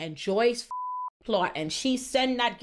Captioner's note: beep